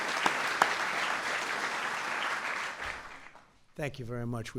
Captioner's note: applause